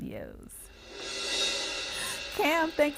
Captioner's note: cymbal whoosh